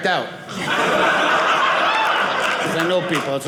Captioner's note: audience laughing